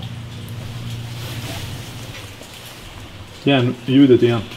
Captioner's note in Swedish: Ljudet av metall